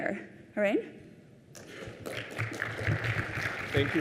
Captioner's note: applause